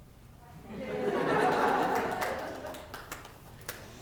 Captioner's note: laughter